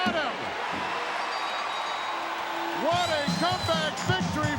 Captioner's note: crowd cheering; bell ringing